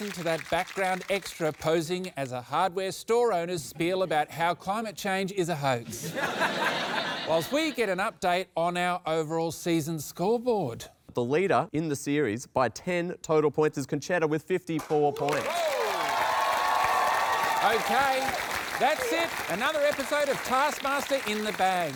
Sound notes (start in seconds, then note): 5.8 laughter; 15.1 cheering, applause